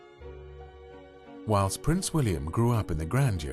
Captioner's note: voiceover